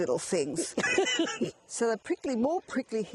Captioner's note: laughing